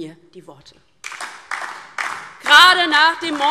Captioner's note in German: Beifall DIE LINKE und SPD